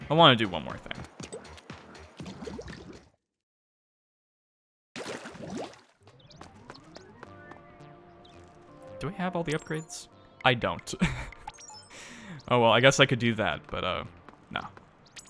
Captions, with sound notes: “I wanna do one more thing.” “Do I have all the upgrades?" "I don't" *laugh* “Aw well I guess I could do that but uh... nah.”